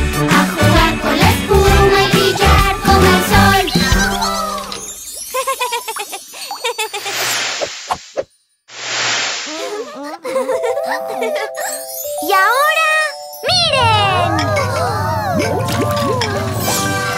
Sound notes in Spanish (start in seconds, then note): 5.3 Risas; 9.5 Risas